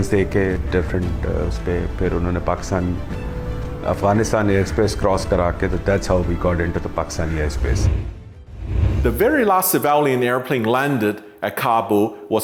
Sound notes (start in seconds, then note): 7.2 whooshing